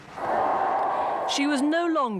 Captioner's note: crowds cheering